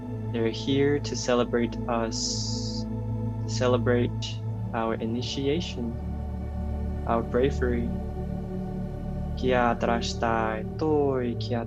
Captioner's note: light language